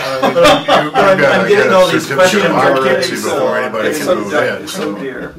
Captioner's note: laughter